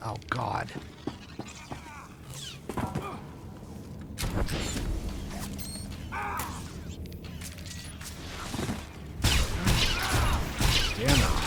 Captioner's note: gunfire